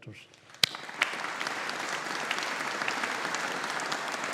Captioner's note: audience applauding